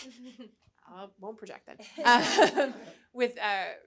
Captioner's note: chuckling